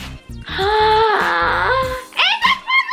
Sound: Gertie gasping

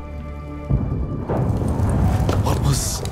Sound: muffled explosions

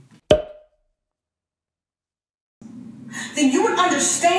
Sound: cork popping

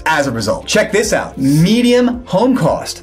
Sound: graphics swish

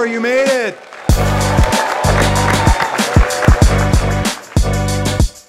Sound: students cheering

